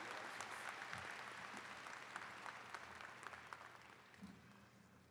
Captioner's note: attendees clapping